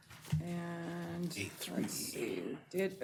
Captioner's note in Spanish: coro de sí